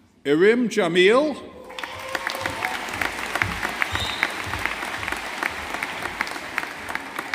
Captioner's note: audience applauding